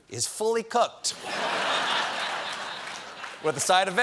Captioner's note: laughter